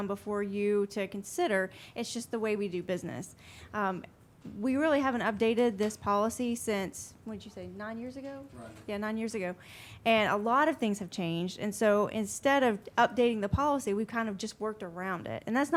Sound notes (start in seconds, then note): none